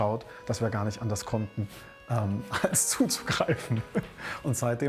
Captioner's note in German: lacht